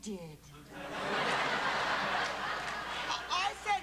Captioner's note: laughter